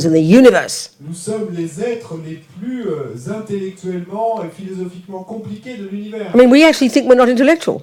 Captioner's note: French